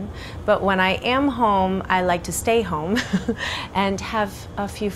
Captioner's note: chuckles